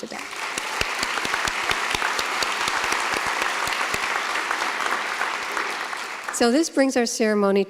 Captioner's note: applause